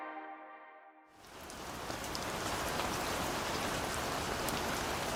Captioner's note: rain pattering